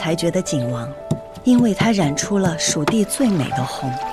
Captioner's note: grinding and mixing